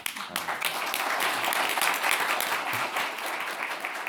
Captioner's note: audience applauding